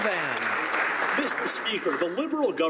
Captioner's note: some Applause